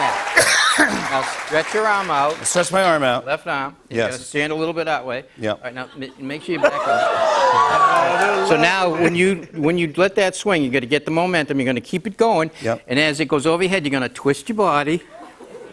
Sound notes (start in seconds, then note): 6.6 cheers